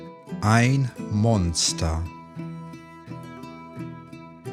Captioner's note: german